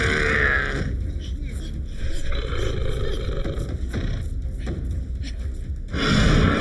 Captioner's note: Paige grunting; shark growling; shark roaring